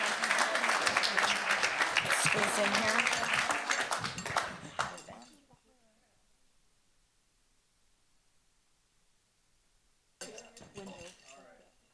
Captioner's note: applause